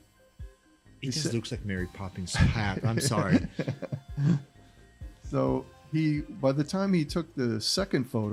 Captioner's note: laughter